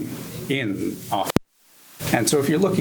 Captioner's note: microphone cuts off